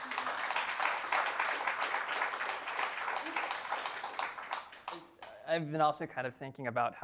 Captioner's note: applause